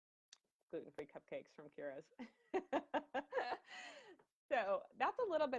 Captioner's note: laughing